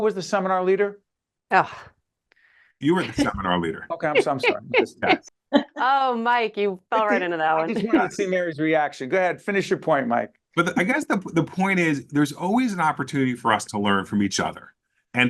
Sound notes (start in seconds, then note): 4.1 laughing